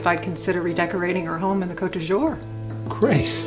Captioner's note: speaks foreign language